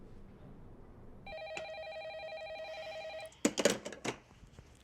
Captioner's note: telephone ringing